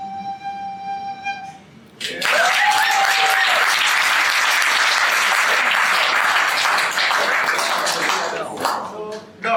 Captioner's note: applause and cheers